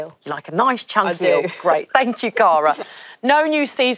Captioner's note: laughs